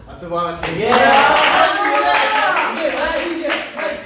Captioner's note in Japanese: 拍手